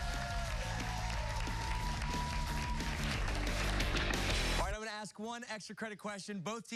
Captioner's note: cheers and applause